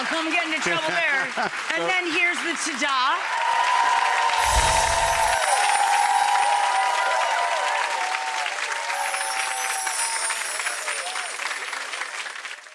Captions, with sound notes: I'm gonna come get into trouble there. And then here's the tada. (audience clapping and cheering) (tinkling sound)